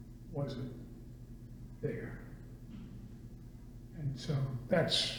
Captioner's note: none